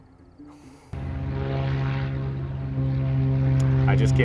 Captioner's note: engine roaring